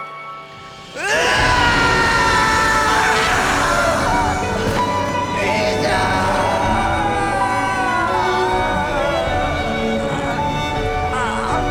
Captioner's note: sobbing